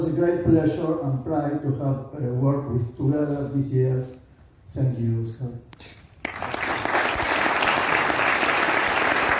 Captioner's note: applause